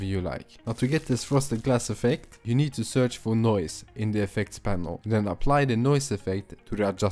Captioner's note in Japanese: ノイズ